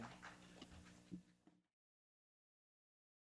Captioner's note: audience applause